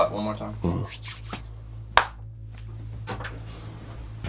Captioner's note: claps